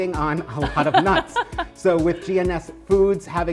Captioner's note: laughs